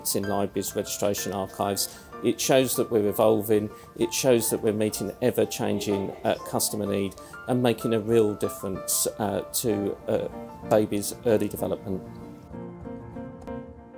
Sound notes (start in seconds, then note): none